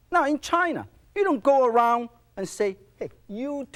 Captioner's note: none